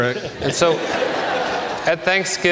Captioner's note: audience laughs